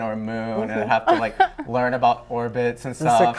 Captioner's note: laughter